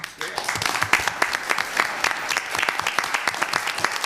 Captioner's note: applause